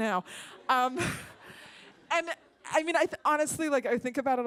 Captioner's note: laughter